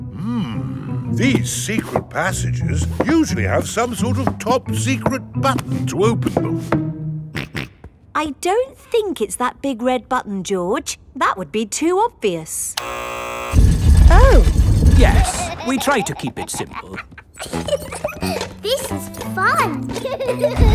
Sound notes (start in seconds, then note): 7.3 snorts; 12.8 buzzer sounds; 17.5 giggles